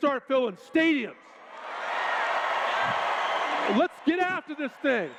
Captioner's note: cheers